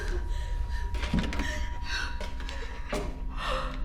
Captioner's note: breathing heavily